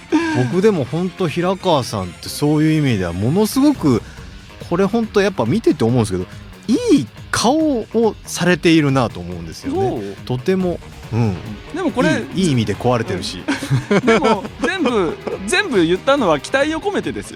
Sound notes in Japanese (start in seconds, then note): 13.2 笑い